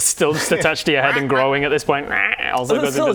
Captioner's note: quack quack